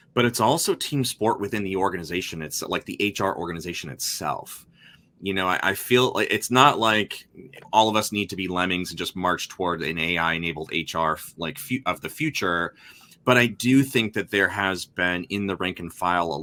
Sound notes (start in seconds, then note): none